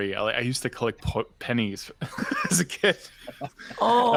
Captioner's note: laughs